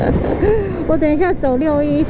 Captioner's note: gasps